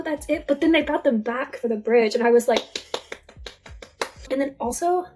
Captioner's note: applause